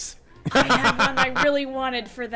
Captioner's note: laughing